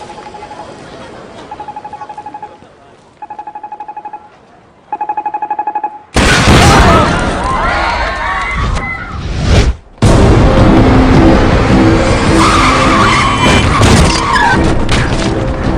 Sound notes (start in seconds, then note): 0.3 phone ringing; 6.2 blast; 6.7 crowd shouting; 10.0 suspenseful music; 12.2 car tires screeching; 14.3 crushing